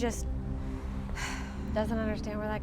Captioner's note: Raven sighs